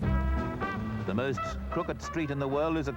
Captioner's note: voiceover